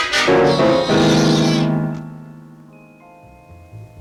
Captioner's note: cat yowling